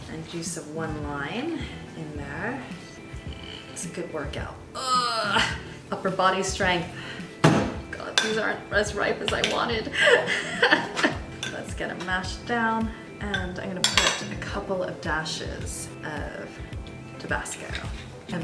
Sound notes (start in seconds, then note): 3.0 groans; 9.9 laughs